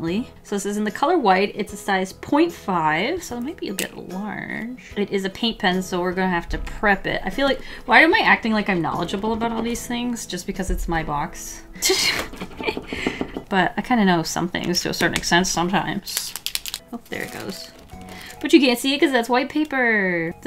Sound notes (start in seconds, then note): 11.8 laughs; 17.0 paint pen shaking